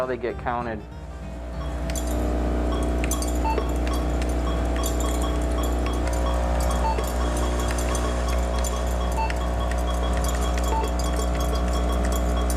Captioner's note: beeping sound as oat seeds pass through laser 'eye'